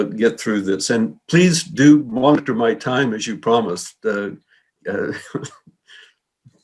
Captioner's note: chuckles